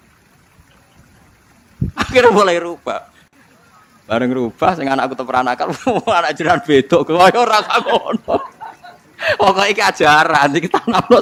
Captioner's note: laughs